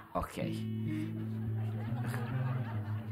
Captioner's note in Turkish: Gülme efekti